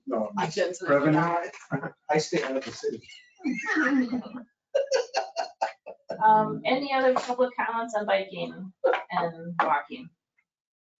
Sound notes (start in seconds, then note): 4.7 laughing